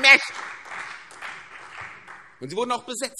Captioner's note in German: Beifall CDU und BÜNDNIS 90/DIE GRÜNEN